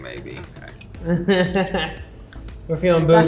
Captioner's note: laughing